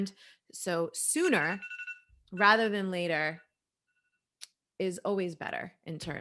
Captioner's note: phone rings